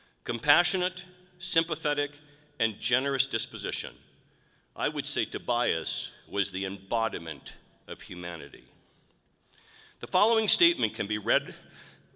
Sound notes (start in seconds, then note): none